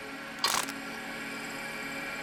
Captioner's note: crunches; machine whirring